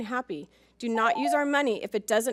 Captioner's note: timer chimes